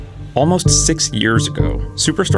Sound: voiceover

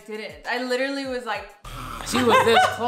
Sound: growls

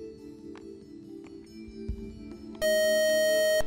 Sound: beeping

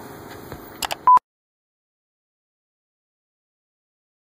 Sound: beeping

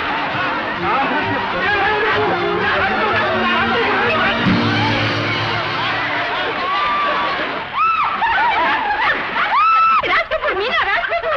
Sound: muffled shouts and exclamations continue

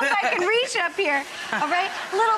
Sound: audience laughs

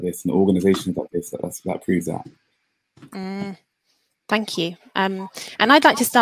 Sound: mmh

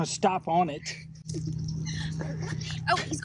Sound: laughs

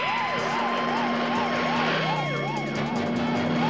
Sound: siren wailing

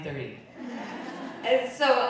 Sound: audience laughing

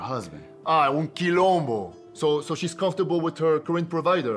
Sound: foreign Language

